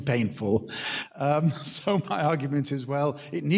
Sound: chuckles

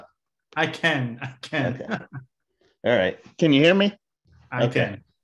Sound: laughs

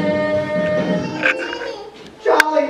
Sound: baby crying about famine and death

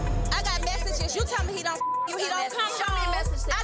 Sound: beep

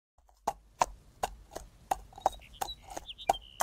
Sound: hooves clomping

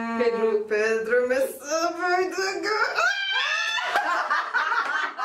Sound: screams

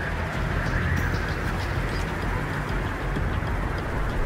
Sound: wind whistling

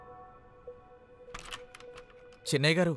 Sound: door opens

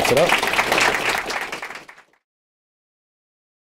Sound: applause

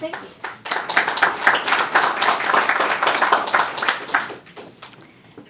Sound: audience applauding

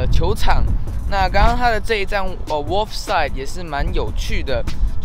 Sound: british accent

